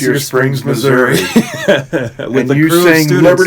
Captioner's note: laughs loudly